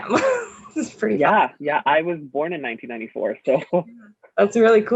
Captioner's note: laugh